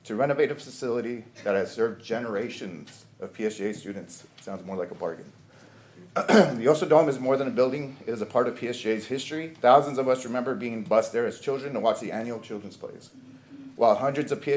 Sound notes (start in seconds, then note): 6.1 clears throat